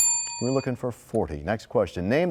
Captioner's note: bell rings, time expires